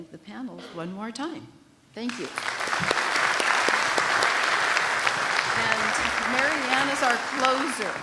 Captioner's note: applause